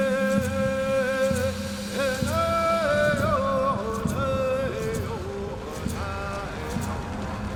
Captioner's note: chanting in Native language